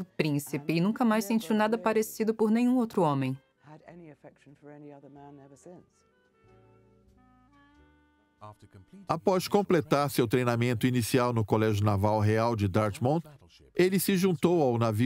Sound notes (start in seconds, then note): 7.3 voiceover